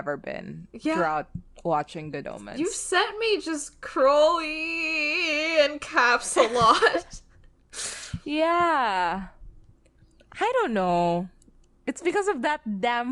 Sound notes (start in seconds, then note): 7.1 laughs